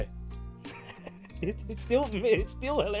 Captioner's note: laughing